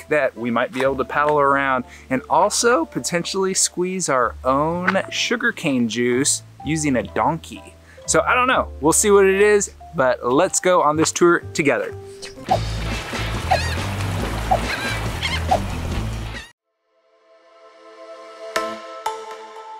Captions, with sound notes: that we might be able to paddle around. And also potentially squeeze our own sugarcane juice using a donkey, so I don't know. We'll see what it is, but let's go on this tour together. (words whooshing) (water burbles) (birds squawking) (upbeat music)